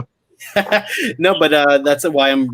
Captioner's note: laughing